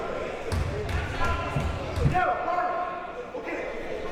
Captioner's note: ball pounding